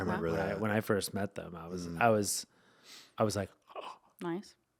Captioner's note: gasping